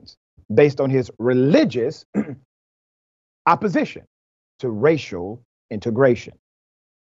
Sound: cough

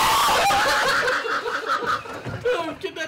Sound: screaming and laughing

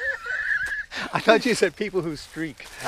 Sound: hard laughing

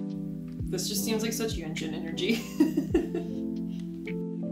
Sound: laughs

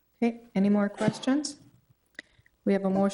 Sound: none

